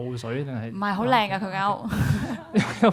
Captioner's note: laughs